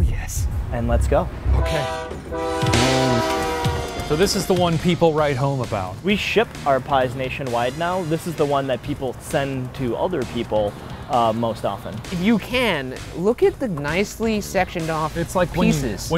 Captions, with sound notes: - Oh hell yes. - And let's go. (train horn blows) - So this is the one people write home about? - We ship our pies nationwide now. This is the one that people send to other people most often. - If you can, look at the nicely sectioned off, it's like pieces.